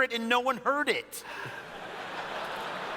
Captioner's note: sighs; laughter